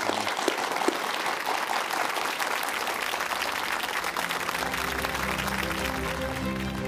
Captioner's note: applause